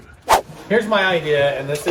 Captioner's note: swooshing